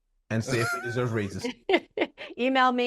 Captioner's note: laughing